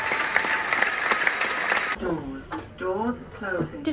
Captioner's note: applause